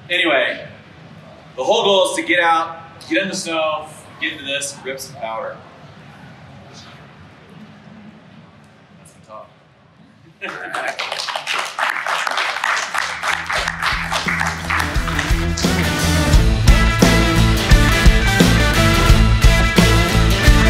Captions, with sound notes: So anyway, the whole goal is to get out, get in the snow, get into this, and rip some powder. That's the talk. (laughs) (crowd clapping) (upbeat rock music)